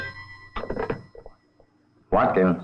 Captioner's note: folder thudding; phone ringing; receiver clacking